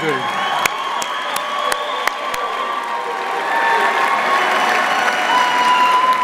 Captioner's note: audience applauding and cheering